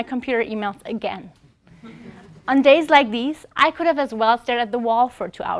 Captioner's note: laugh